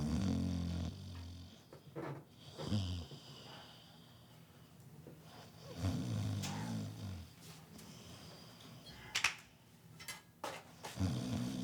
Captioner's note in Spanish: Ronquidos